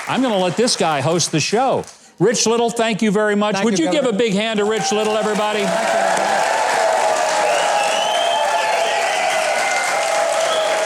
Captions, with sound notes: I'm going to let this guy host the show. Rich Little, thank you very much. - Thank you very much. - Would you give a big hand to Rich Little everybody. (crowd clapping) (crowd cheering)